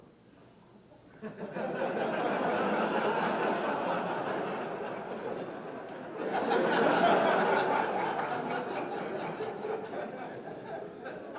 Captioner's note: laughter